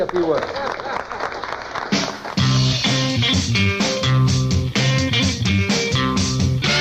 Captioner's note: applause; various music clips